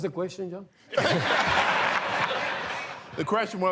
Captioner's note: laughter